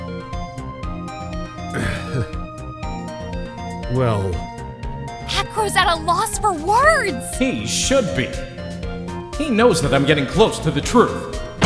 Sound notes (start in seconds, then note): 1.4 sighs